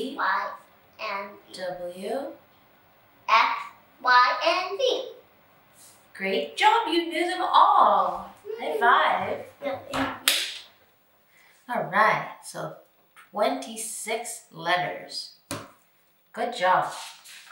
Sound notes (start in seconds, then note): 10.0 hands clapping